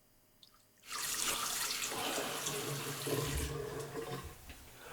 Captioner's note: liquid trickles; water runs